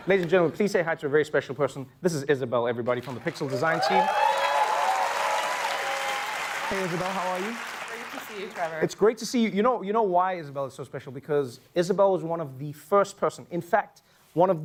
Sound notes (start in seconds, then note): 3.4 cheering